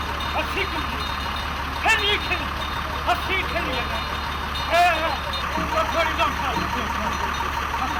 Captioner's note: bell jingling; engine revving